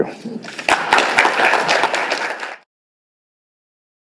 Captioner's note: audience clapping